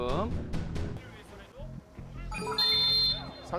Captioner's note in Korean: 호루라기 소리